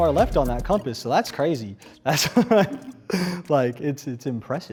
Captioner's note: laughs